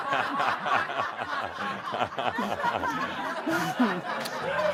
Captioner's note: much laughter